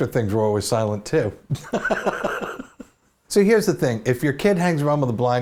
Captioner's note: laughs